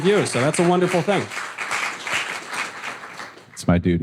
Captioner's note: audience applause